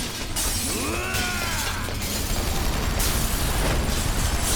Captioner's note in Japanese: うめき声